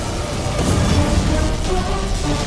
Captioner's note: wind blowing